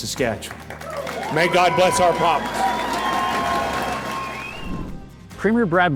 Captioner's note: audience applauds